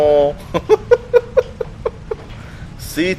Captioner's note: giggles